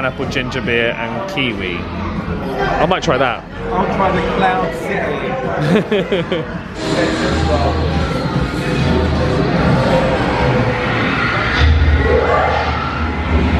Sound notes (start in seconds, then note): 5.6 chuckles; 6.5 hyperdrive engines whine